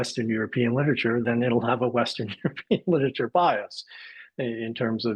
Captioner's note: laughs